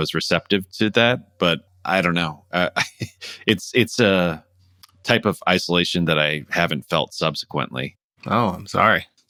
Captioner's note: laughter